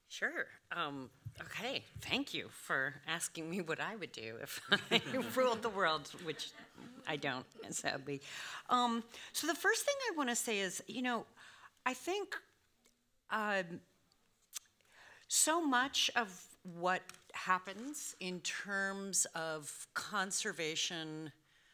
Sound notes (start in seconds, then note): 4.8 everyone laughing